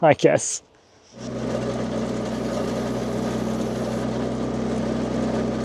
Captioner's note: engine humming